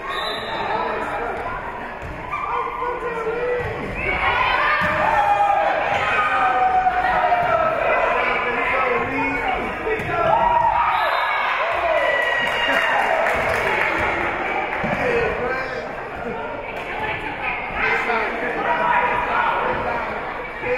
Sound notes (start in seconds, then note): 0.0 whistle being blown; 2.6 spectators shouting encouragements; 9.9 spectators cheering; 10.8 whistle being blown; 11.5 spectators cheering and applauding